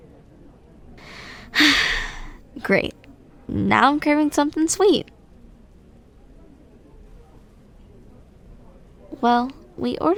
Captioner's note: sigh